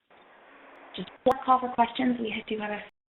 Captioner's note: audio skips